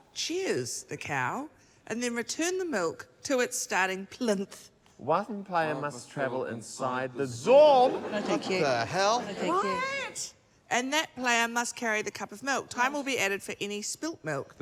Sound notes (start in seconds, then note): 7.3 yells